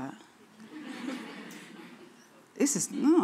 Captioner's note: audience laughing